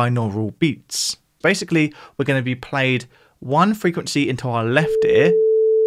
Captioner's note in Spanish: tono